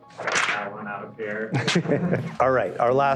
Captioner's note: laughter